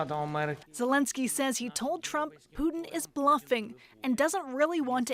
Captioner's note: speaking alternate language